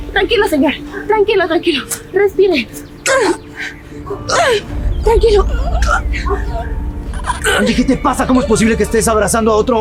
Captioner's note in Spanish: risas